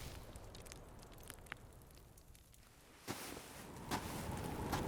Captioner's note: fire crackling; footsteps thudding